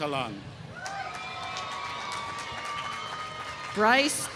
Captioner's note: applause